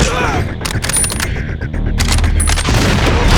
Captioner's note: crunch